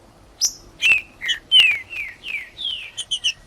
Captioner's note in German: trinca ferro cantando